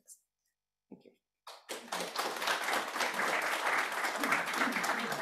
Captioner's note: applause